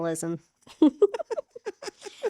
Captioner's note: laughing